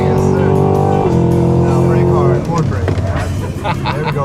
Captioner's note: engine revving; laughter